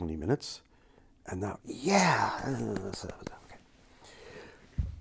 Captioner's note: clapping